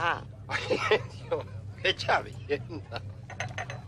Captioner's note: laughs